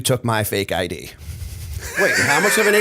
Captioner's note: laughter